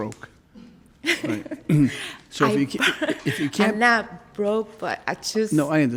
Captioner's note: laughs